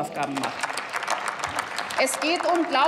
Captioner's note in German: Applaus